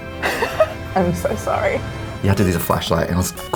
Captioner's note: laughs